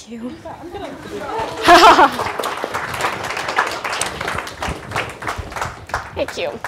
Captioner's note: applause